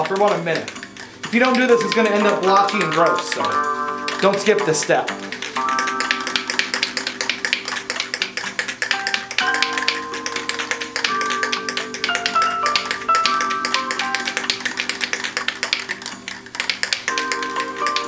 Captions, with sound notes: for about a minute. If you don't do this it's gonna end up blotchy and gross. So don't skip this step. (can shakes) (easy listening music)